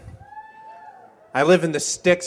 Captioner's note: cheers